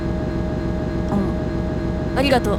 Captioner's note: chomp